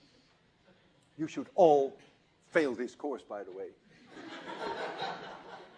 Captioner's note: laughter